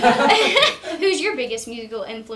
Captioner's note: group laughing